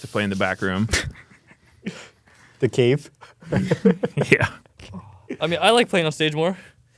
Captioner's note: laughs